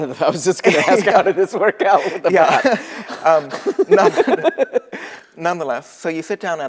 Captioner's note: laughter